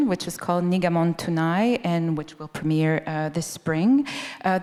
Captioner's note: none